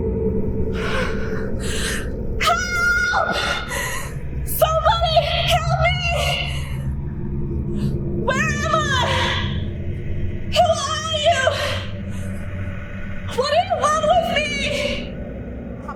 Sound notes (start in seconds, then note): 0.7 heavy breath